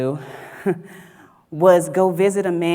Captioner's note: chuckles